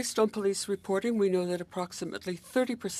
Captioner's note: speaking French